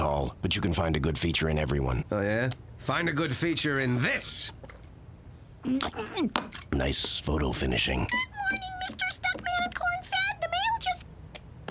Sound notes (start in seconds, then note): 5.5 muffled retch